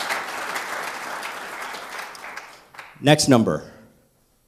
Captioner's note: applause